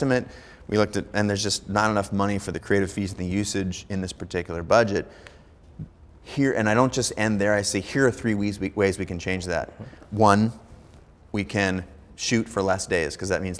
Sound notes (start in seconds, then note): none